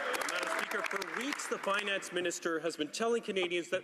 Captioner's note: some Applause